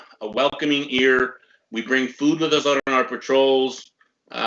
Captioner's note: none